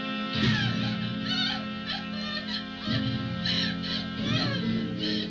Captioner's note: Marion crying and screaming